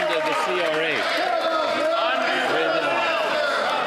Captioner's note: some Applause